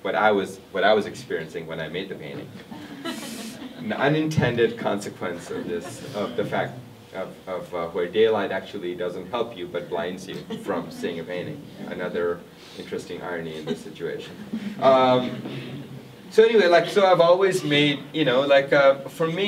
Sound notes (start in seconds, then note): 2.7 everyone laughs